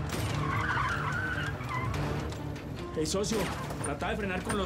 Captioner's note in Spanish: chirrido de llantas